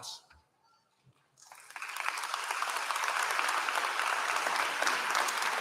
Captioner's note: applause